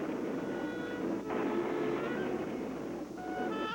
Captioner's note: thunder